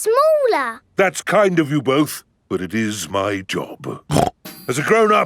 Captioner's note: snorts